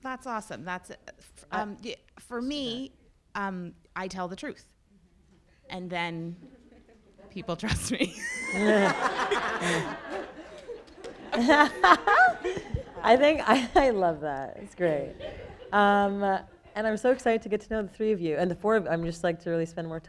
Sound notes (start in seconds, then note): 8.5 people laughing